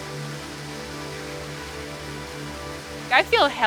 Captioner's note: water splashing